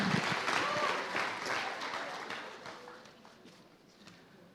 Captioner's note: applause